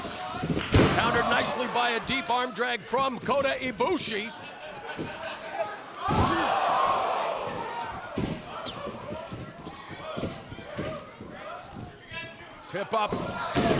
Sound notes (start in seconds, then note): 6.4 crowd exclaiming